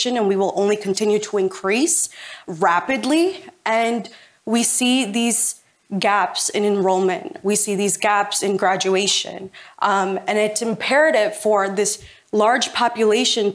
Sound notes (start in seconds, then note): none